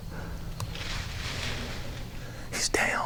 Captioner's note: whispering